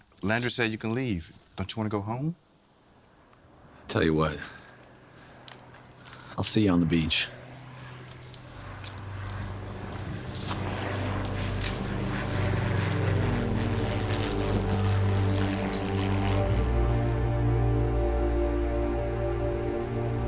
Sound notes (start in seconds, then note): 8.9 dramatic music; 10.7 airplanes buzzing